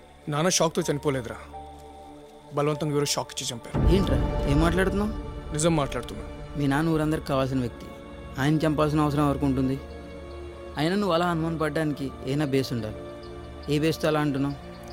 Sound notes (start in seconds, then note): none